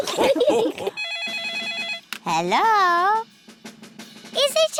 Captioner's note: all laugh; phone rings